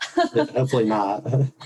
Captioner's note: speaker laughing